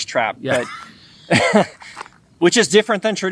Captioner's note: both laughing